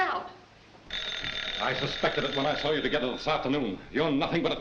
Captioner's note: phone rings